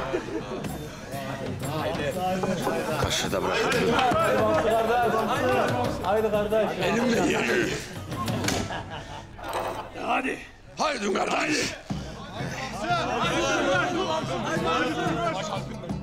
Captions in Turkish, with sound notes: Kaşığı da bırakacağım. (Tezahürat sesleri) Elimle yiyeceğim. -De hadi! -Hadi kardeş. (Tezahürat sesleri)